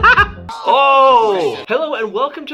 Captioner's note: laughing